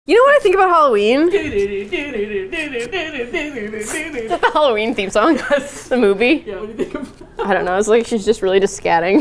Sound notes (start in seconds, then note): 1.1 starts humming the Halloween movie theme song; 4.4 laughs; 8.7 laughs